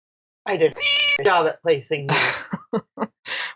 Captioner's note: meow